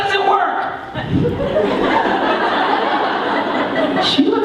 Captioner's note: audience laughing